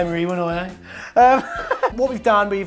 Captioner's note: man laughing